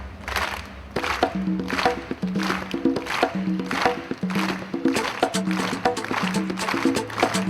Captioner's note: audience clapping; exciting music